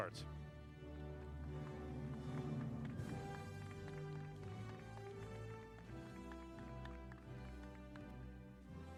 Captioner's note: applause